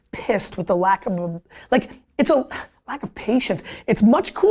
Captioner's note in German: Seufzt